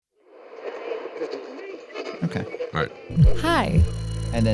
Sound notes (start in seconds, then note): 0.4 audio hissing